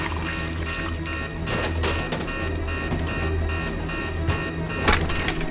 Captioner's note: ooze squelching; equipment clattering